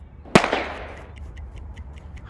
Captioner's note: bang